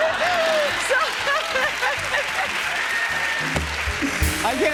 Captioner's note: laughter and applause; laughs